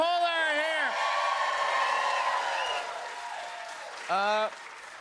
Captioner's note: cheers and applause